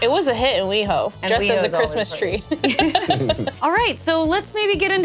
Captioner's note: laughs